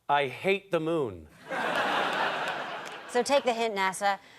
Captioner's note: audience laughter